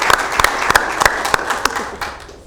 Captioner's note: applause